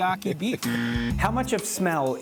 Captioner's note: buzzer blaring